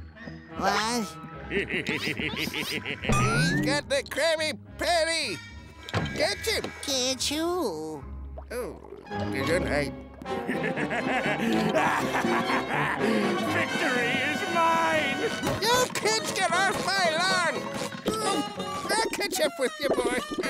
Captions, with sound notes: What? [laughing] He's got the Krabby Patty! Catch him! Catch who? Oh. Gesundheit. [laughing] Victory is mine! You kids get off my lawn! Oh. I'll catch up with you, boy.